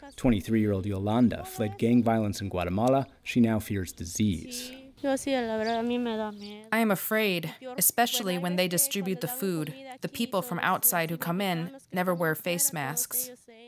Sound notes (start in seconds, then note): 6.2 through translator